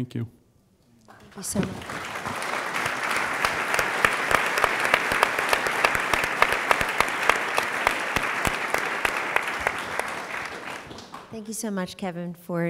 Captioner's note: applause